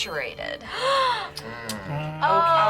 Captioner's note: group gasps and hums